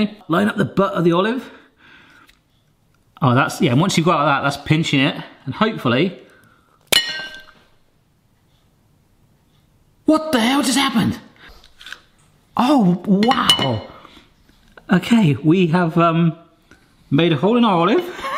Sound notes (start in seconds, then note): 6.9 clink